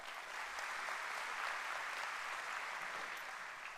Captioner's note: applause